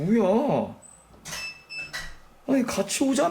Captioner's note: the sound of closing the door